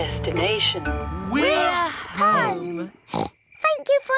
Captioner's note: oinks